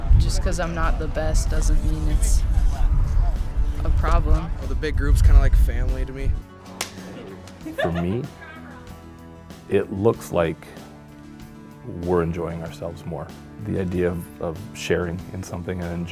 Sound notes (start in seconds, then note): 6.7 hands clapping; 6.9 laughing